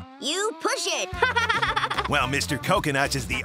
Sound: laughing

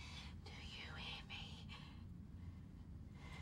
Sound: whispers

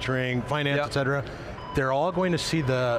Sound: beeping in background

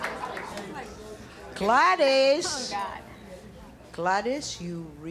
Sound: speaking Spanish

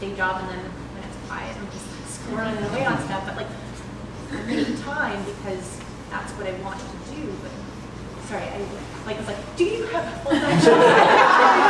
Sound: laughter

